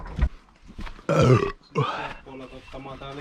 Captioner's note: burp